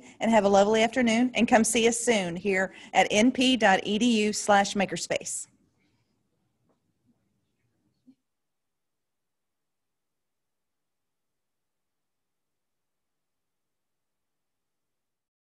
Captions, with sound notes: and have a lovely afternoon and come see us soon here at np.edu/makerspace. [silence]